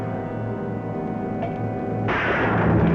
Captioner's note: gun Shot